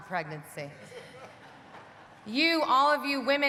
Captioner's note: audience laughing